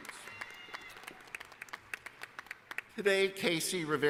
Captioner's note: applause